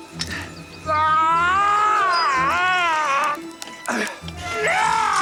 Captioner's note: Mr.Day screaming in pain